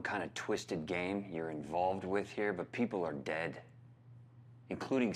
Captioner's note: none